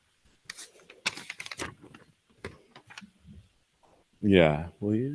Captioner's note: pages rustling